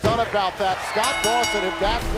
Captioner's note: bell ringing